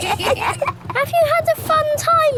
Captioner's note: kids giggling